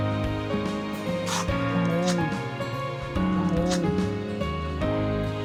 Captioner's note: imitating elephant sounds